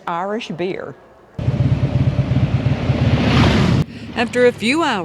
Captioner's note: motorcycles rumbling